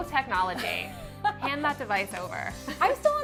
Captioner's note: laughs